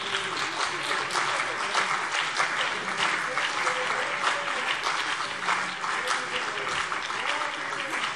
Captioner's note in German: Beifall CDU und BÜNDNIS 90/DIE GRÜNEN